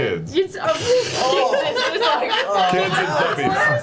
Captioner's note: laughs and groans